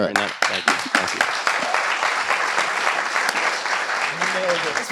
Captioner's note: applause